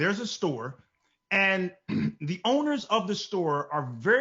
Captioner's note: clears throat